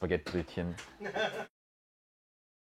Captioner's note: laughter